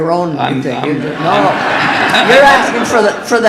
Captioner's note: audience laughing